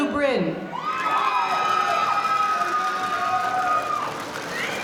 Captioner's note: audience cheering